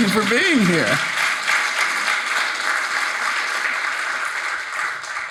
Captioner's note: audience applauding